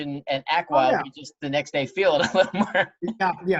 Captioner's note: laughs